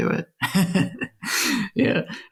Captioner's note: laughs